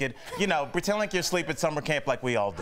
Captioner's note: laughter